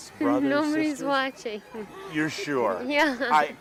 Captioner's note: chuckling